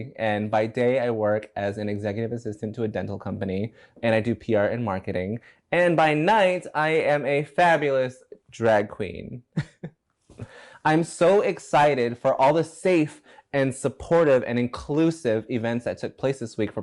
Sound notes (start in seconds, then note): 9.5 chuckles